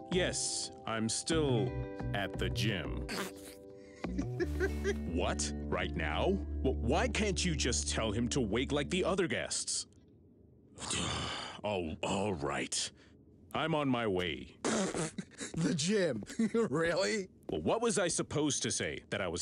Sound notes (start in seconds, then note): 3.9 laughs; 14.6 laughs